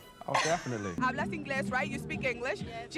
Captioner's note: speaking Spanish